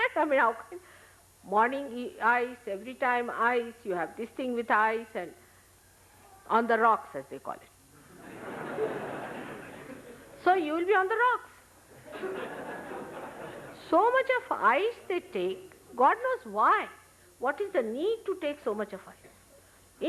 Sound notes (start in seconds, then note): 11.9 laughter